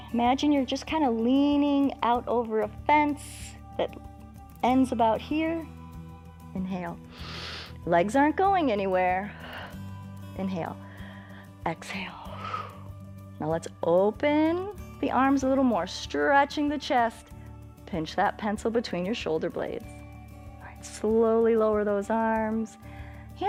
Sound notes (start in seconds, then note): 0.0 inhales; 7.1 inhales; 10.8 exhales